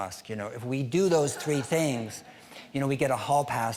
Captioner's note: scattered laughing